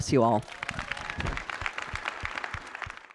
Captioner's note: audience clapping